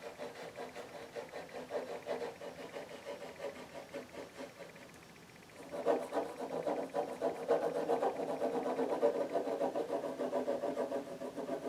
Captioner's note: drawing sounds